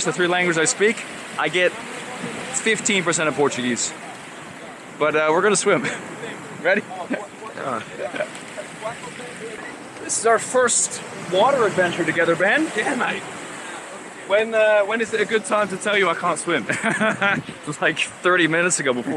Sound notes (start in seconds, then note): 6.7 chuckling; 16.6 laughing